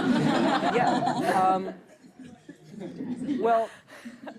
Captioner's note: laughter